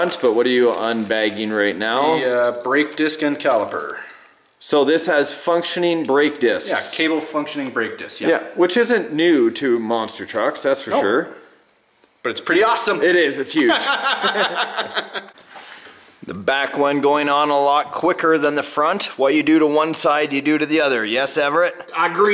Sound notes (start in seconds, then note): 13.6 laughs